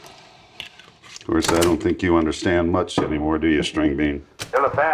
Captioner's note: ejecting tape recorder